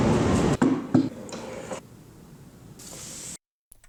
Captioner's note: chair clunks; book swishes against table